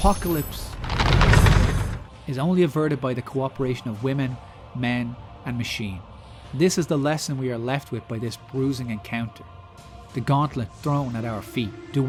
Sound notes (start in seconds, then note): 1.6 crunching skulls